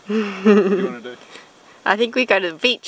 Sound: laughs

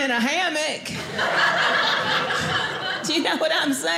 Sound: audience laughing

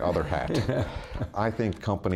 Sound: laughs

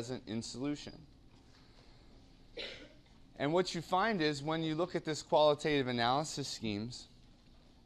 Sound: cough

